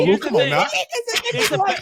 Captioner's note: laughing